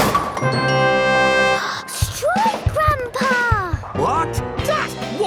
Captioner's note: gasps